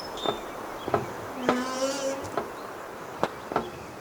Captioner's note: door creaking